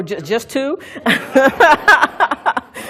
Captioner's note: laughs